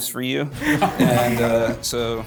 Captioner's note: laughs